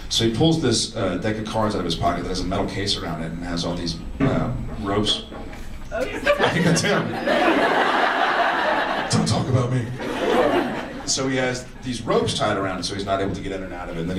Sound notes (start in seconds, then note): 4.2 mysterious thunk; 6.0 laughing; 6.0 audience laughs